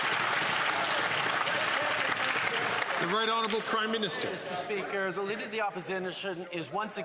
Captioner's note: some Applause